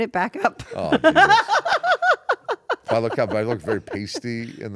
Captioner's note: laugh